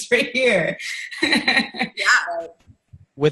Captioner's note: laughing